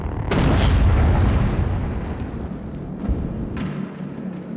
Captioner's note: tank exploding